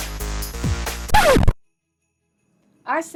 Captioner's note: up tempo electronic dance music continues; record scratches